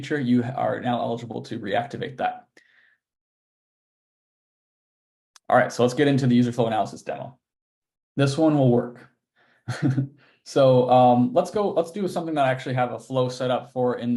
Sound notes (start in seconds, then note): 9.7 laughing